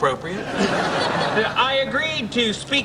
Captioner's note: laughing